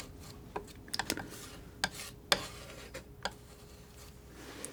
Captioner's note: scratching